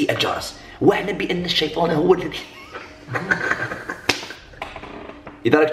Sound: laughs

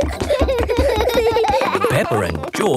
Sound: both giggling

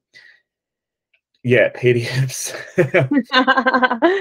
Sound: laughs

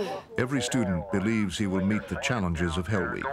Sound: voiceover

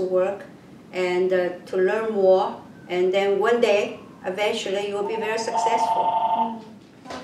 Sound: phone rings

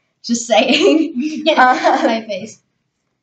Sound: laughing and indistinguishable speech

